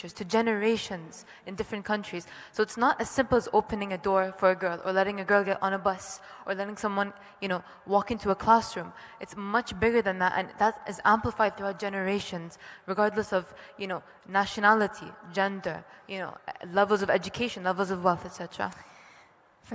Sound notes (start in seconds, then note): none